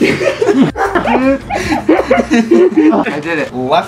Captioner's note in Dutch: Gelach